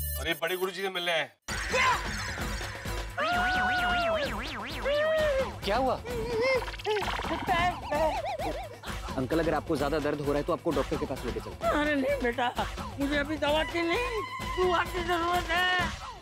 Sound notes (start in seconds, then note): 3.1 squealing